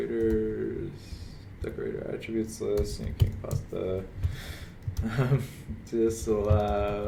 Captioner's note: chuckles